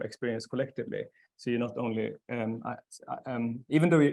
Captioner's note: stammering